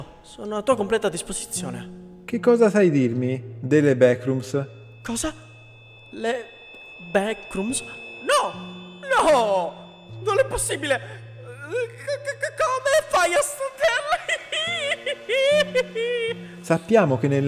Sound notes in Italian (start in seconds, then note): 13.8 risate